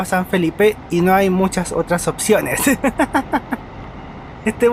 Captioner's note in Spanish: risas